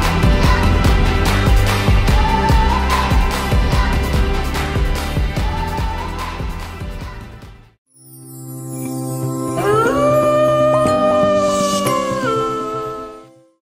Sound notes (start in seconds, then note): 9.5 wolf howls; 9.7 light chiming music